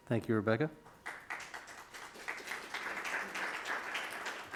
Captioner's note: crowd claps